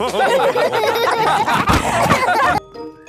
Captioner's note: all laughing